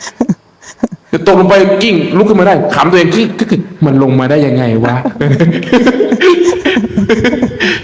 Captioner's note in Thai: เสียงหัวเราะ